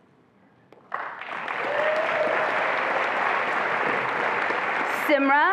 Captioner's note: attendees applauding and cheering